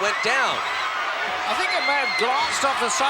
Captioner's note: audience cheering